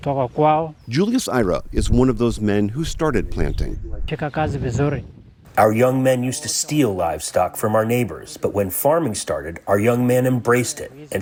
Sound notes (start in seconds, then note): 5.9 through translator